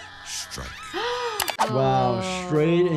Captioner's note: gasps